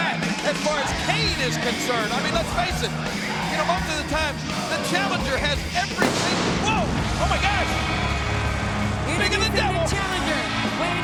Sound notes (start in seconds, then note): 5.9 pyrotechnics burst